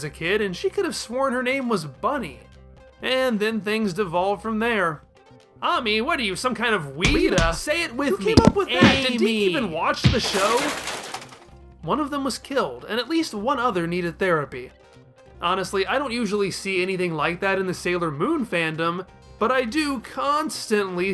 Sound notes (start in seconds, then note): 10.0 punch sounds